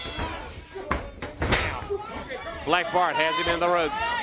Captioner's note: crowd chatter